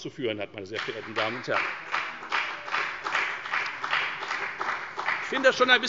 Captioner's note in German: Beifall bei der FDP